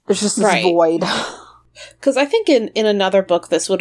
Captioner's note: sighs